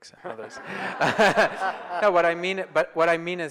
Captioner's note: audience laughs